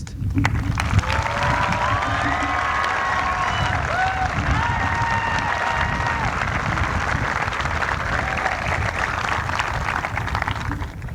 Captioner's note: applause